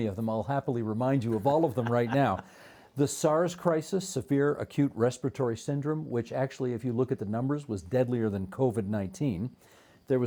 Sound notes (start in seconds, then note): 1.2 chuckling